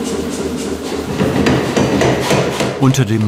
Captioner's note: dull knocking